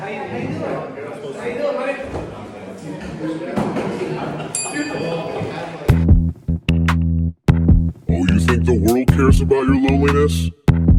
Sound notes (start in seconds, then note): 4.5 bell rings